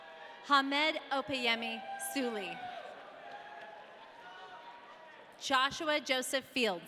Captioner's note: audience cheering